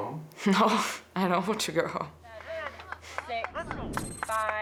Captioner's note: laughs